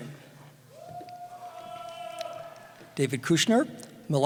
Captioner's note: cheering